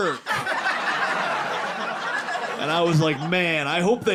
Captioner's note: audience laughing